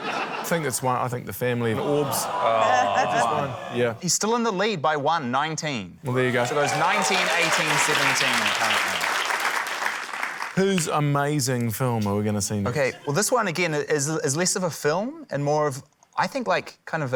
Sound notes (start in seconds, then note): 0.0 laughter; 1.7 audience groans; 6.1 cheering, applause